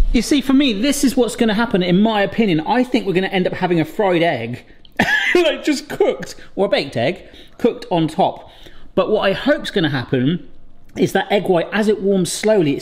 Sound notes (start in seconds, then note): 5.0 laughs